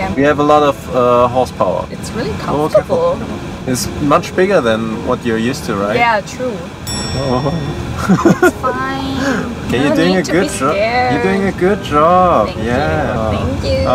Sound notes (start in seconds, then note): 8.0 laughing